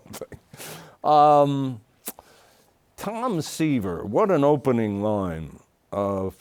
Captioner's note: chuckles